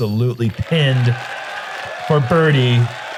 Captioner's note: applause